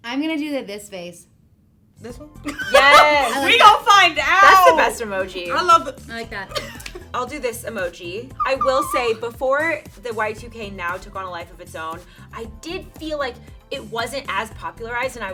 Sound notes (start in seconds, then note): 2.4 laughter